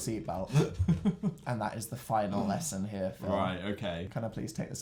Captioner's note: laughing